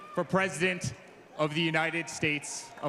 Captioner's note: cheers and Applause